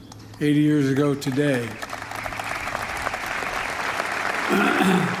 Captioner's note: applause